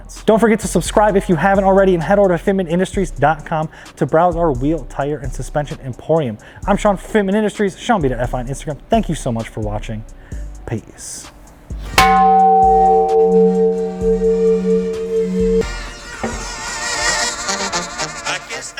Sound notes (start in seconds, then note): 11.9 metal clanging; 15.5 playful music